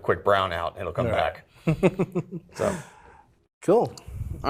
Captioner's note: laughs